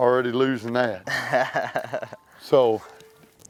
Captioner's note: chuckles